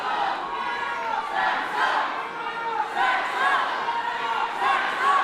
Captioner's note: audience chants